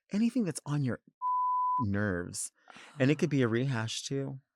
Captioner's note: beep